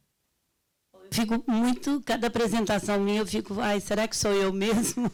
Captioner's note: speaking Portuguese